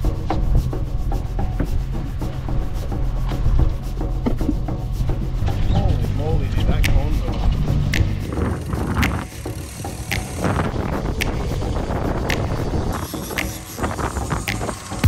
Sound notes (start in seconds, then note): 0.2 mid tempo drumbeat; 8.1 rhythmic clicking; 11.6 reels clicking